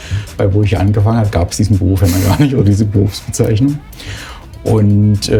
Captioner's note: laughing